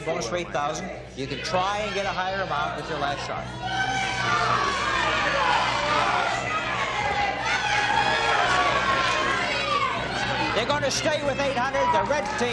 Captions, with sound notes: You play a bonus for $8,000. You can try and get a higher amount with your last shot. [shouting] - They're going to stay with $800.